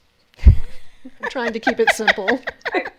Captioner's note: laughs